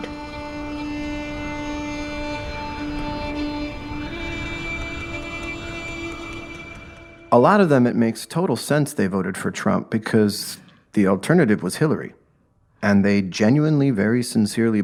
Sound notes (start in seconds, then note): 0.0 sustained violin; 5.7 wind blowing